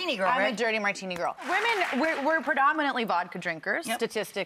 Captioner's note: audience applauds